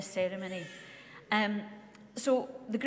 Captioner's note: baby crying